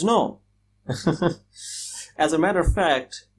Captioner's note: laughs